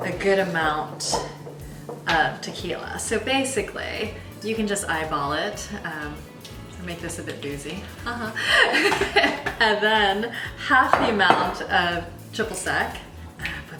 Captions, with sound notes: A good amount of Tequila. So basically you can just eyeball it, make this a bit boozy, (laughs). And then half of the amount of Triple Sec,